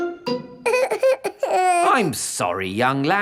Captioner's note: whimpers